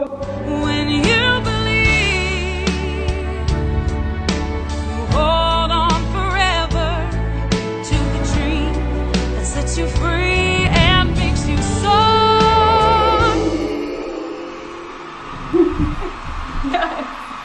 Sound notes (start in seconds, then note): 12.3 crowd cheering; 16.6 laughs